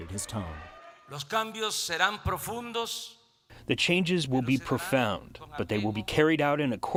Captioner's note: through translator